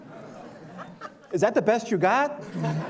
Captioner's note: laughter